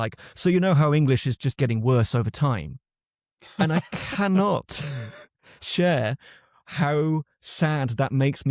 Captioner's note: laughs